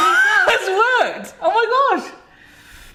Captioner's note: laughs